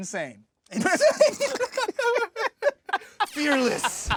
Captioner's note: laughing